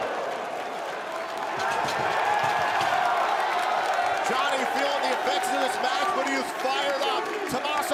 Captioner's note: cheers and applause